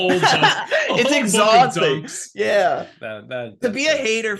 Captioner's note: laughing